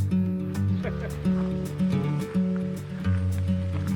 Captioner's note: upbeat acoustic guitar music; laughs